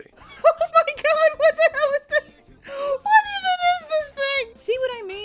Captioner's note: giggling